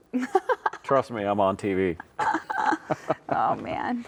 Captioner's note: laughs